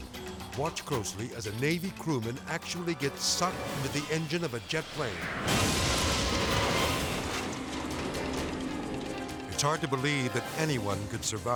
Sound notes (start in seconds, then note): 5.3 engine exploding